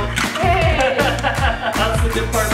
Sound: laughs

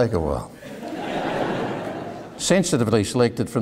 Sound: audience laughing

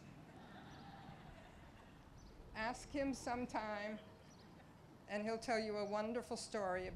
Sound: laughter

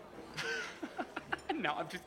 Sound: laughing

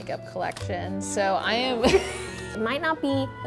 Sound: laughing

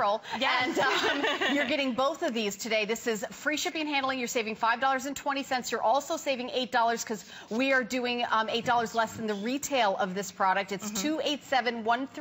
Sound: laughter

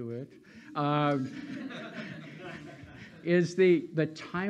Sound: laughing

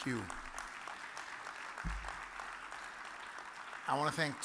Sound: audience applauds

